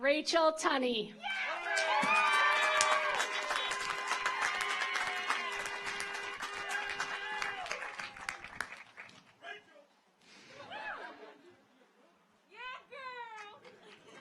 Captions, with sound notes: Rachel Tunney. (audience applauds) (car horns honking)